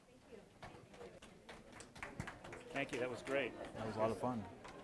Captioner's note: audience applause